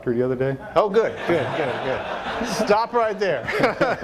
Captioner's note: audience laughter